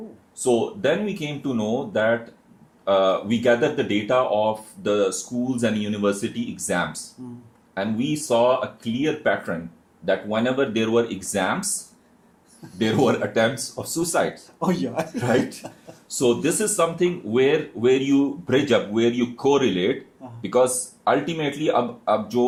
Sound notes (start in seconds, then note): 15.0 laughter